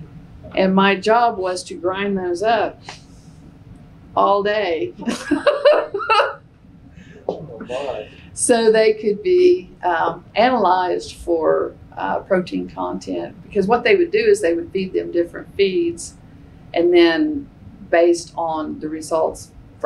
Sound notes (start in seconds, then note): 7.0 laughs